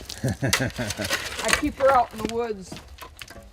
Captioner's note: laughs